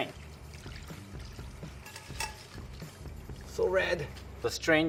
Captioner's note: pouring oil